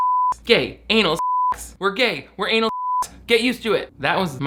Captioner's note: beep